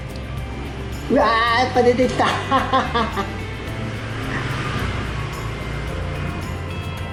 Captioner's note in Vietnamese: cười